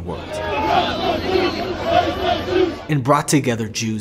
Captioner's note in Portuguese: manifestantes cantando